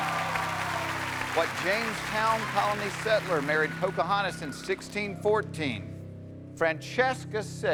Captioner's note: cheers and applause